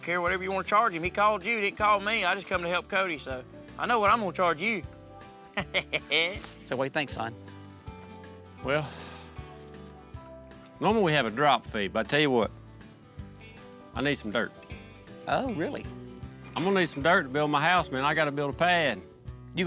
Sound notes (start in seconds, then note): 5.5 chuckling